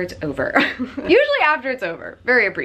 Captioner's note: laughs